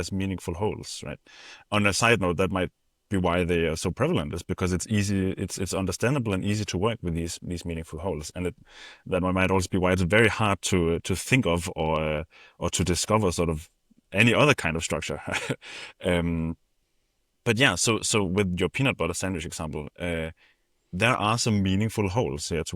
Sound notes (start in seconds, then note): 15.2 chuckles